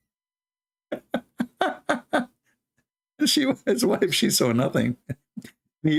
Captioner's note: Ketawa